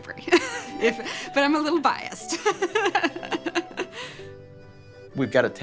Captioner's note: laughs